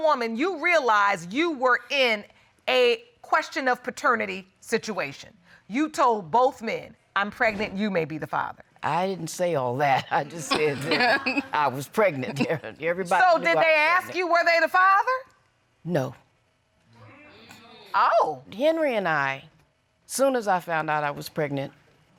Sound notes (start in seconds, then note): 10.5 laughs